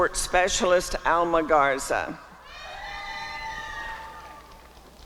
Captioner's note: applause and cheering